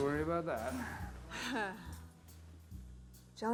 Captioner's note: Joan chuckling